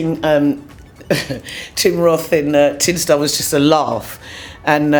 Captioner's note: chuckles